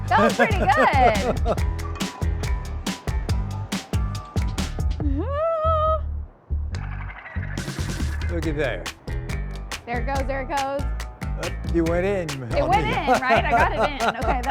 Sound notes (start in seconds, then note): 0.1 laughs; 3.1 whimsical music continues; 5.1 nervously screams; 12.6 laughs